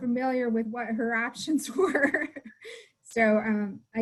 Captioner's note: laughs